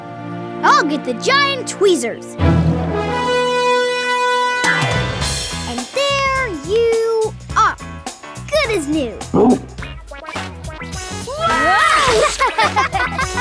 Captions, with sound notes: I'll get the giant tweezers. And there you are. Good as new. [barking] Whoa! [laughing]